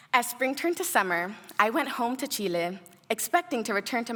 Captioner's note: none